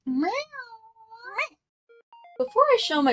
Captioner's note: meowing